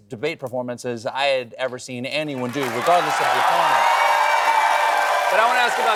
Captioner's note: cheering